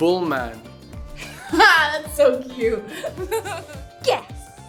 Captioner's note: laughs